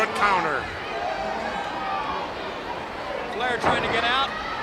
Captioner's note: crowd cheering